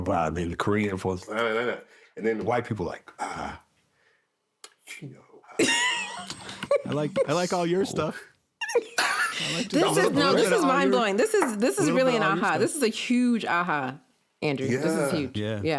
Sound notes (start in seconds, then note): 5.6 laughing